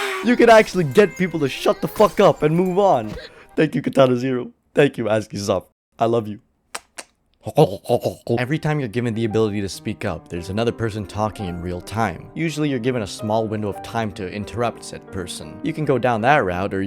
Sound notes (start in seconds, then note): 6.7 kisses